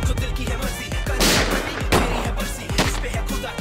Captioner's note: Gunshots